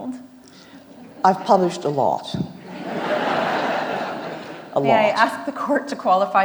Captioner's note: audience laughs